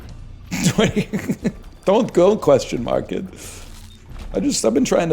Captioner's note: laughs